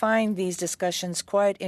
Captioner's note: speaking in French